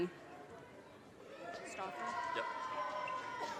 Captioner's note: audience cheers and applause